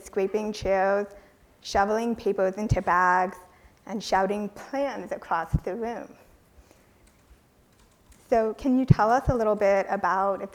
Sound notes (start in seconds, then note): none